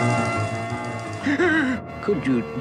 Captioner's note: Adam West Gasps